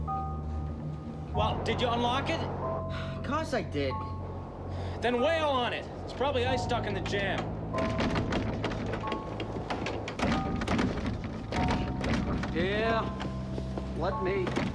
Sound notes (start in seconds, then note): 7.4 continues to bang